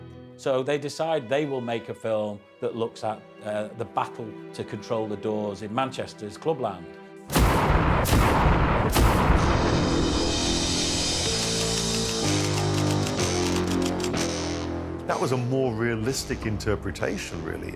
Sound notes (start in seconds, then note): 7.3 echoing thuds; 11.3 mysterious music; 13.1 typewriter clicking